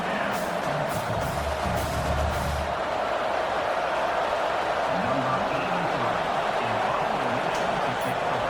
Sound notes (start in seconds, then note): 0.0 crowd Noises